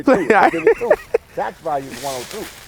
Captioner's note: laughing